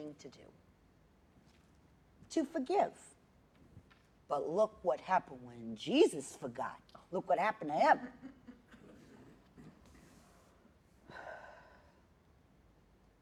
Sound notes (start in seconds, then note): 8.0 laughter